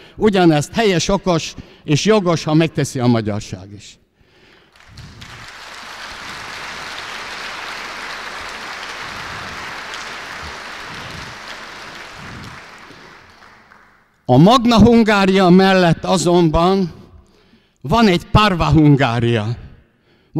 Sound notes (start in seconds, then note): 4.4 applause